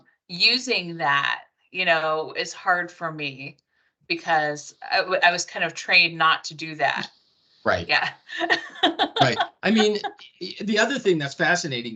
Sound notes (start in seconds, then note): 7.9 laughing